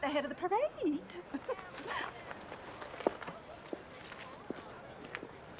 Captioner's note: crowd murmuring agreement